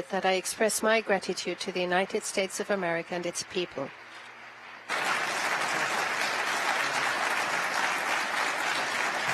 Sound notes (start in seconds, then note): 4.8 applause